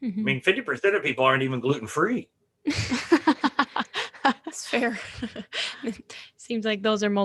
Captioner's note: all laugh